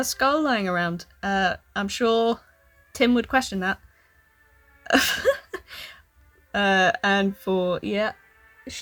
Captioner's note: laughs